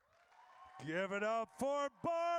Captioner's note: audience cheers